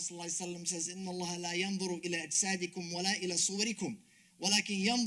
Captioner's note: speaks Arabic